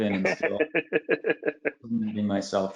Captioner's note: laughing